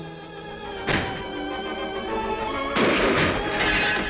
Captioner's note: glass cracking; gun firing